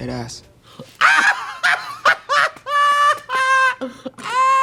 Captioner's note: Trixie screaming